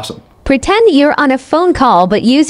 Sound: robotic Voice

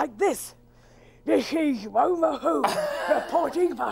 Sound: Iver laughs

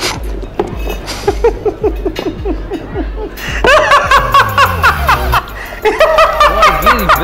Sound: Bajju laughing

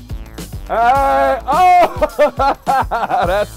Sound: laughter

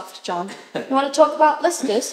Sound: he laughs

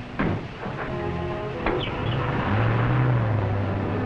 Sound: car starts

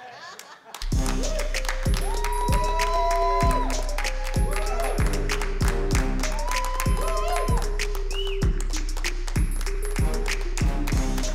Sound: cheering and Applause

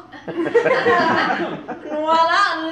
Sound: laughter

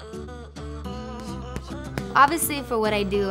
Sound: gloves thumping

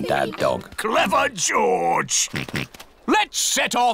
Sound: snorts

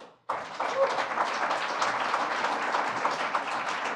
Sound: applause

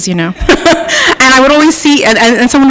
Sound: laughs

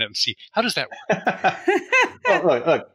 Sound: laughing

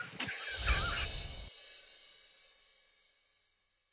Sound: laughing

